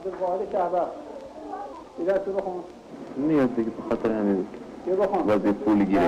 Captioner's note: teacher speaking foreign language